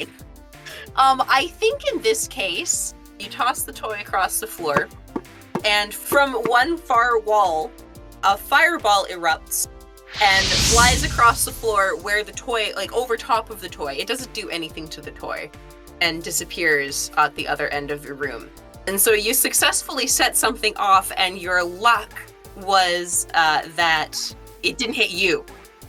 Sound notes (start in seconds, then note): 6.0 thuds; 10.1 whoosh